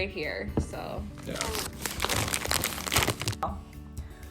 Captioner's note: bag crinkling